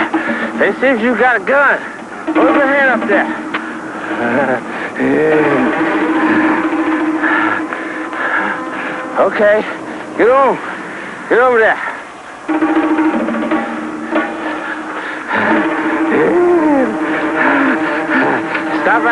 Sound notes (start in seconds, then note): 4.1 panting; 15.1 panting